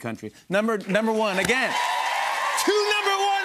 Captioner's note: cheers and applause